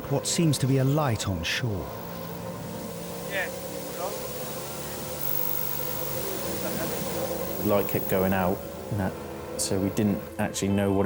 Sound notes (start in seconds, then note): 2.0 lifeboat engine whirring; 4.6 lifeboat engine whirring